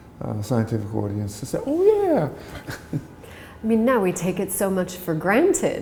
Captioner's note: chuckle